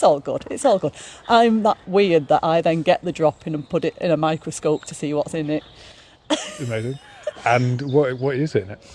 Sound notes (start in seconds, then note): 6.3 laughs